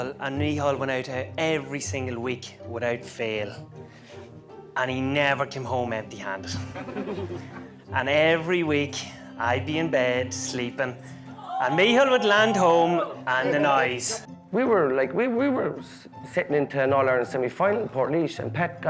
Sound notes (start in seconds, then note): 6.6 guests laughing